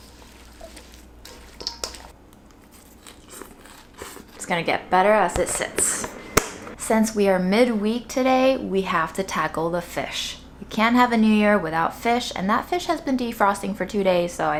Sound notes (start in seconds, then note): 0.1 slaw sloshing; 2.3 slaw crunching